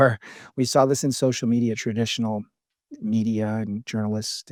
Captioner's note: laughs